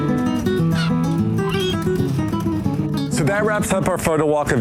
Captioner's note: seagull squawking